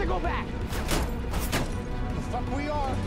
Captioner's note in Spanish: Disparos